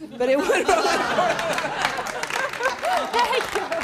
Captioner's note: audience laughs